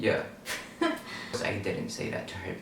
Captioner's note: laughs